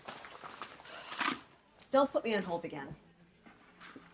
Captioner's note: Caralique sighs